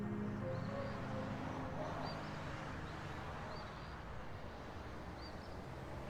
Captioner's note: birds chirping; cars whooshing